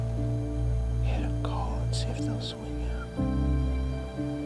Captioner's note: whispering